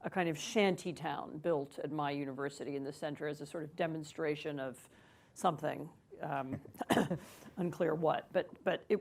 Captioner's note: laughs